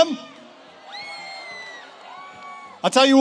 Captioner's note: audience cheers